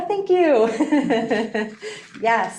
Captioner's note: laughing